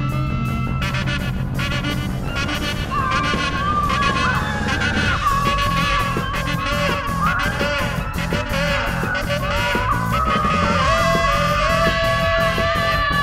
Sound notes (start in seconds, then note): 2.6 continuously yelling